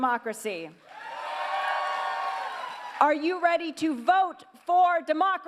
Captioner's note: cheers